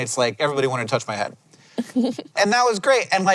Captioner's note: giggles